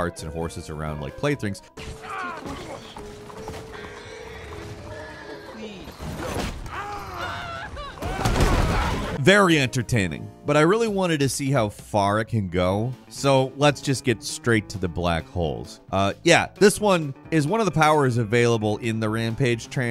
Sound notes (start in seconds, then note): 1.9 man in cart grunts; 6.3 people groan and shout